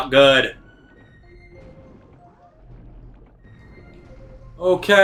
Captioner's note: gaming sounds; instrumental music